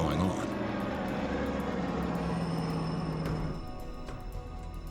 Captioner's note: engines rumble